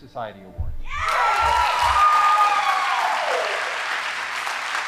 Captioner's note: audience applauding